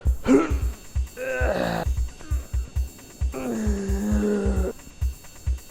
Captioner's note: grunting